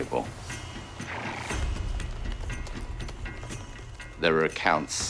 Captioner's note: horse chuffing